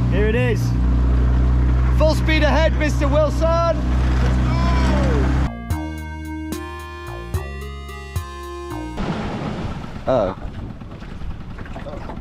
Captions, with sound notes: Here it is. Full speed ahead, Mr. Wilson! - Let's go! (bright music) (engine stopping) - Oh.